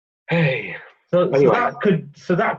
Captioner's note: sighs